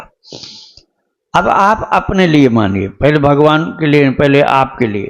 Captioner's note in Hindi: नाक से की जाने वाली आवाज़